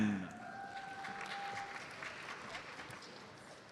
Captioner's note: audience applauds